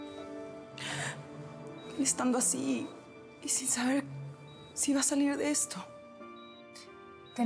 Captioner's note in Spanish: solloza